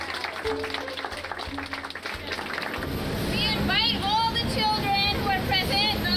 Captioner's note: Aplausos; applause